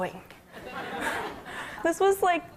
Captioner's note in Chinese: 笑聲